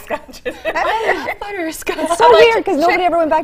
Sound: laughter

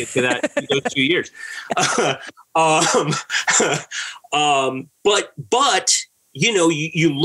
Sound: laughter

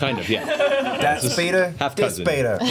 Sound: all laugh

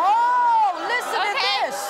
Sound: audience ooohs

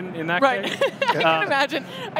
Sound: laughter

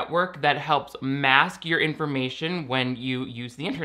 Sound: none

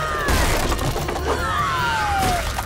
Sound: screaming

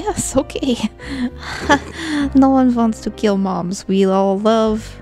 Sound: laughs

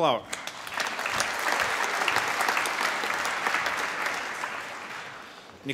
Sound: applause

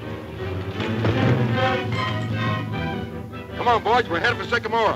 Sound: crash

